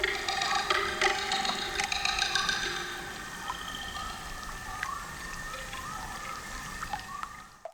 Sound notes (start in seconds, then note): 0.0 animals chirping continues; 0.0 water dripping